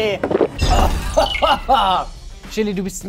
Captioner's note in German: Husten